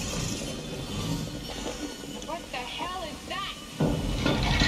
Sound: ball rolling

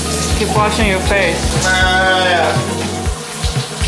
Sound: odd goat noise

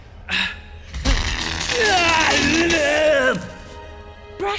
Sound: brzzzzt

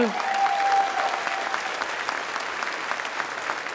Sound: applause

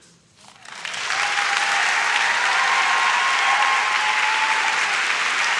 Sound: audience shouts and claps

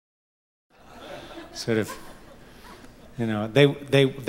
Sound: audience laughs

